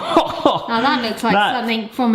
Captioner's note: laughs